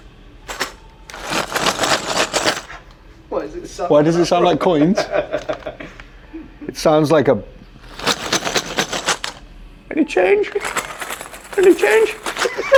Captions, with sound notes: (Package rattling) - Why does it sound... - Why does it sound like coins? (Laughter) It sounds like a (Rattles package) Any change. Any change.